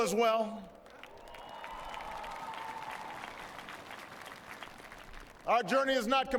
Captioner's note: applause